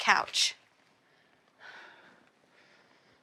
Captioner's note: sighs